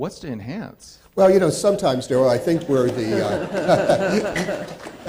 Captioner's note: laughing